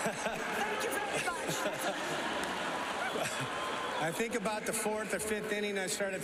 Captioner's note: laughter